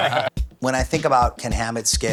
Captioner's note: laughing